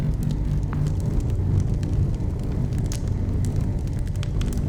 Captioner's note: crackling coal